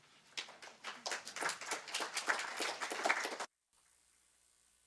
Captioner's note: audience clapping